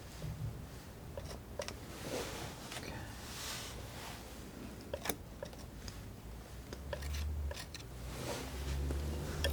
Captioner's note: tapping